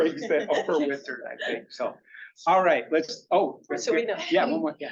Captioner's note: laughing